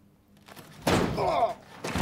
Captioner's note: John groans